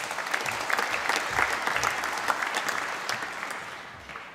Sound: applause

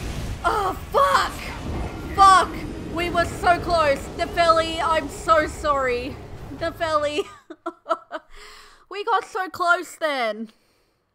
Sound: laughter

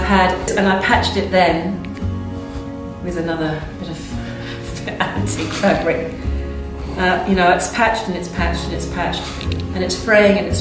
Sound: laughs

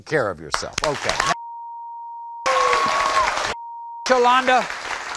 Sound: audience applauding

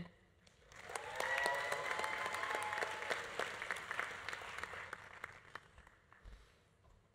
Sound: audience applauding; audience cheering

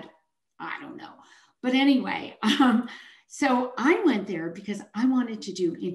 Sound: chuckles

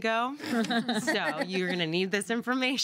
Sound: girls laugh

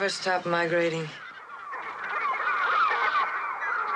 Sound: birds cawing

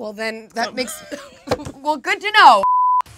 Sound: laughs

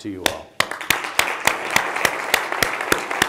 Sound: applause

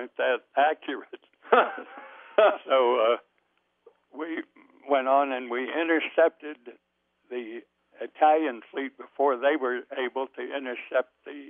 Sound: both laugh

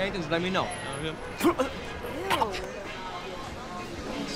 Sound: coughing

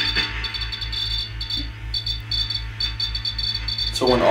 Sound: radio hissing continues; device beeping

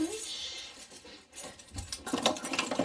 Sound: sobbing; rattling sound

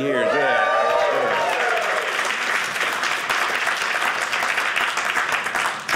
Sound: audience cheering

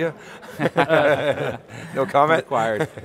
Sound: laughing

